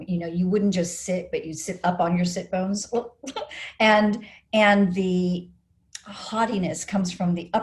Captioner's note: laughs